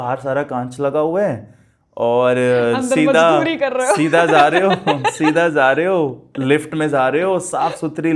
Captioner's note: laughs